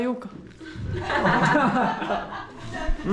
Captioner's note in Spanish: Risas